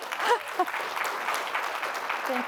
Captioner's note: applause